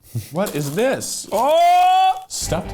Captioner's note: shouting